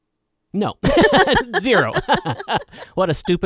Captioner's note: laughing